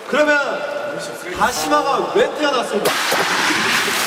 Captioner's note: rubbing